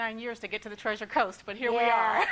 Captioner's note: laughs